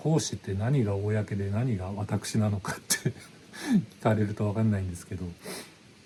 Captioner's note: laughs